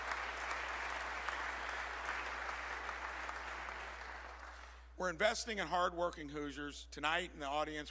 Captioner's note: applause